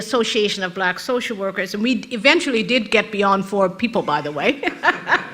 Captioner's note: rires de l'auditoire